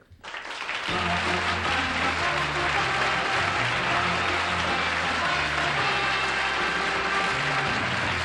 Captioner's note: applause